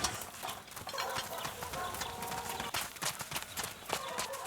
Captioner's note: dogs barking